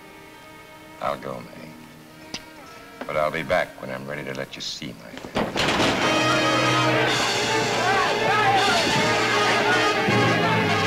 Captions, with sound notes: - I'll go, Mae, but I'll be back when I'm ready to let you see my hand. (table crashes) (dramatic, exciting music)